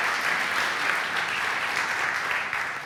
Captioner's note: applause